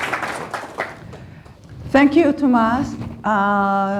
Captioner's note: applause